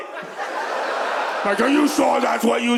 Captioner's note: audience laughs